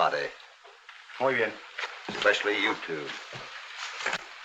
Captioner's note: in spanish